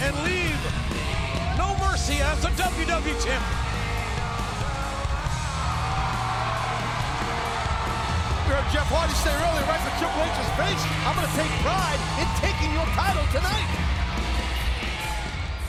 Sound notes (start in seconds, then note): 4.4 audience cheering